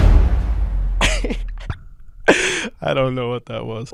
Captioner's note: laughing